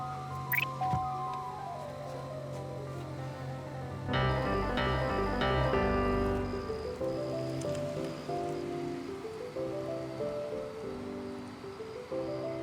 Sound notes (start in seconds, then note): 0.3 faint frantic music; 4.2 music intensifies; 6.9 crickets chirp